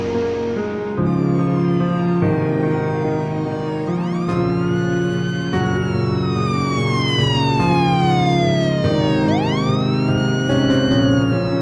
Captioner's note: firetruck Sirens